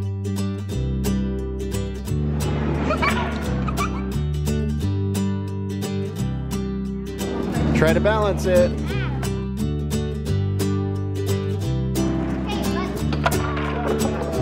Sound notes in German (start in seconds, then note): 0.3 glückliche Gitarren Musik; 2.7 Lachen; 9.2 glückliche Gitarren Musik